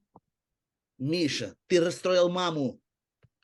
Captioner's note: In Russian: Misha, you upset mom